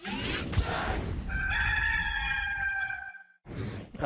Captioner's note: rooster Crows